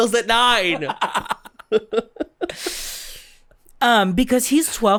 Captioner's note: cackles; giggles